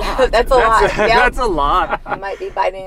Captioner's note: laughing; laughs